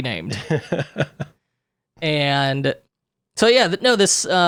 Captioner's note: laughing